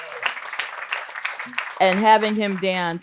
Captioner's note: audience applauding